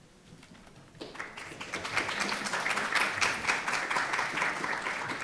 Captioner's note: audience applauds